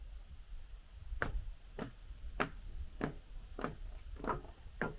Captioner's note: hammer thumping